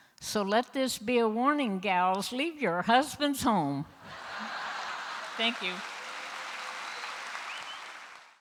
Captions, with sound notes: So let this be a warning, gals, leave your husbands home! (Applause)(Laughter) Thank you!